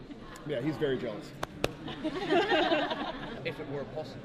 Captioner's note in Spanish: aplaude